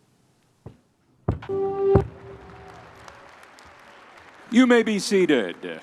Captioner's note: audience applauding